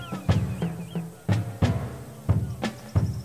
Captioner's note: distant shouting